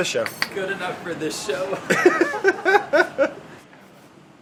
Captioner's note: laughing